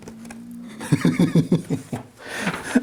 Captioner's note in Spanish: risas